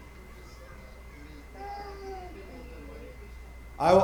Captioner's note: light chatter